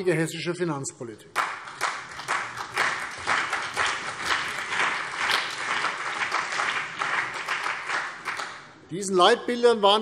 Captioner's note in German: Beifall CDU und BÜNDNIS 90/DIE GRÜNEN